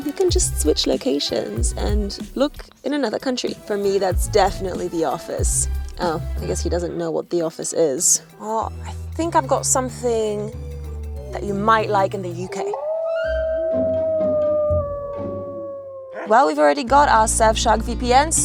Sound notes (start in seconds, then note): 12.4 wolf howling